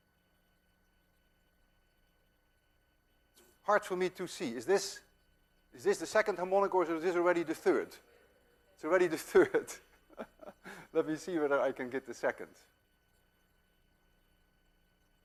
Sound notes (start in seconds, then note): 9.2 chuckling